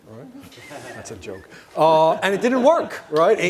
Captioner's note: audience laughing